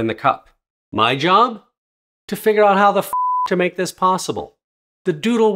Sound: beep

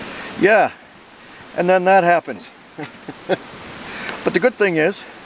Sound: chuckles

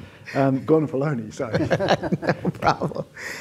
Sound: panelists chuckling; laughs

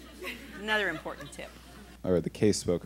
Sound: laughing

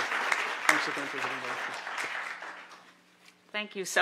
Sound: applause

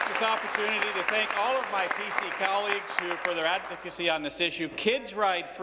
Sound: applause

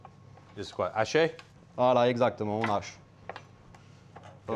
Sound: both speaking French

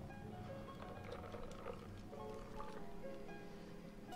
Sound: cocktail pouring

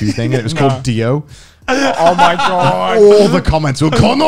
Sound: men laughing

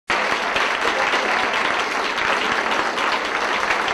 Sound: audience applauding

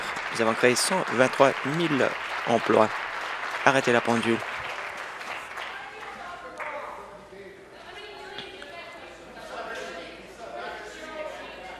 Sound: applause; conversation din

